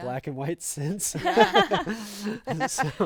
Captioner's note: group laughing